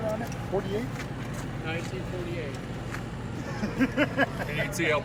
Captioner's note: chuckles